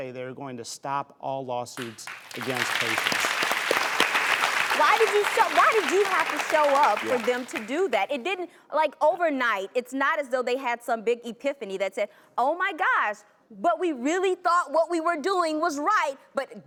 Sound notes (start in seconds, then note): 1.8 applause